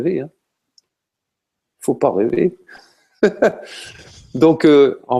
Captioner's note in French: rires